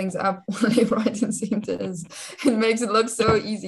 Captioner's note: laughing